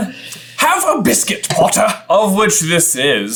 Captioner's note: accented